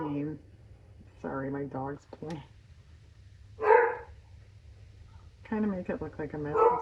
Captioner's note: dog barks